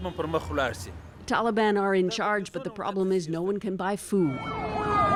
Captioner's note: speaking Foreign Language